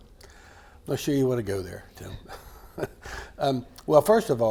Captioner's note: laughs